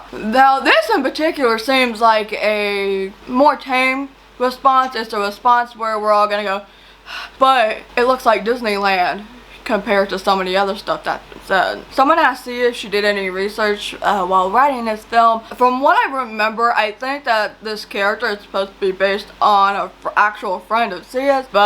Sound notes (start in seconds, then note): 6.7 breathes heavily